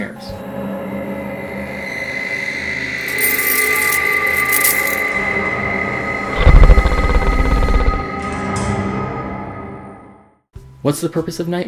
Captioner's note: distorted screeching